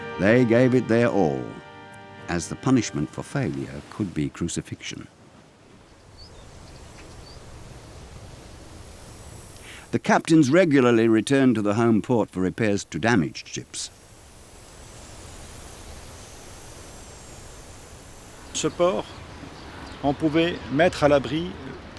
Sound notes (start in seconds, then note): 5.8 birds chirping; 18.6 speaking French